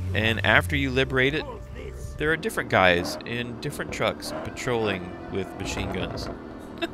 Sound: laughs

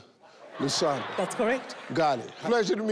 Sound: audience laughing

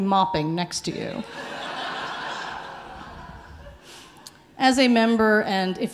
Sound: audience laughing

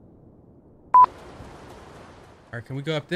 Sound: beep

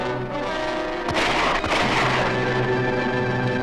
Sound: gun shots ring out!

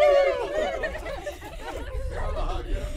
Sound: laughing

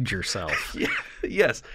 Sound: chuckle

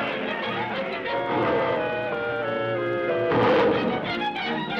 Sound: roaring

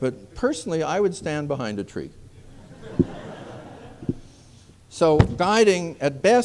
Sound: laughter

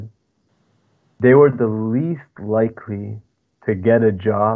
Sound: speaking foreign language

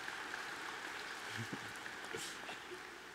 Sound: applause

